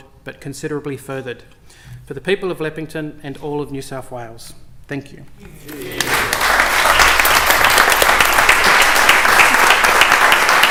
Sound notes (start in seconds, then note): 7.6 applause